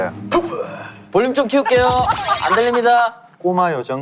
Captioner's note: laughing out loud